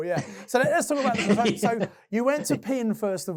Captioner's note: laughing